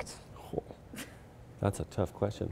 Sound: chuckles

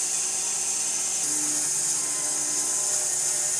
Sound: saw whirring

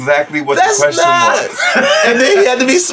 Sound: laughs

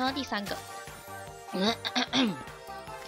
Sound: clear throat

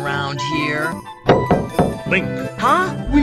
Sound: knocking on door

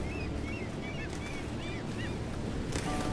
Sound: seagulls

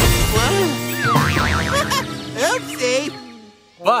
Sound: giggles

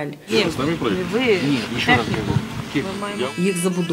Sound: motor running

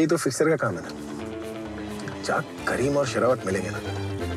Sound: news on TV

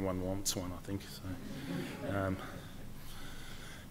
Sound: laughter

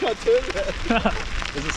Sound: laughs

